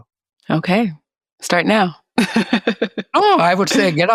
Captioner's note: laughs